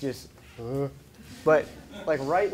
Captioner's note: laughing